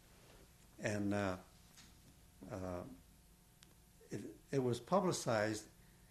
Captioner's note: pauses for 3 seconds